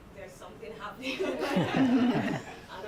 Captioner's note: laughter